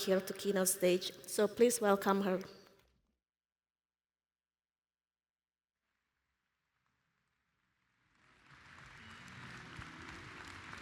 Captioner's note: applause